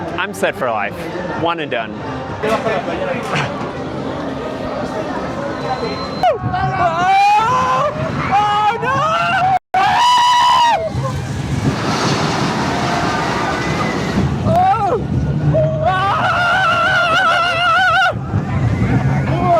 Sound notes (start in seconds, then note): 6.9 intense screaming/yelling/crying?; 16.0 more screaming